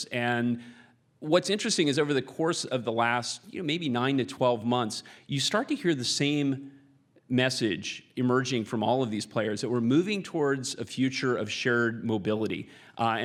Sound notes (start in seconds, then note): none